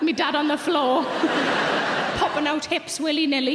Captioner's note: audience laughs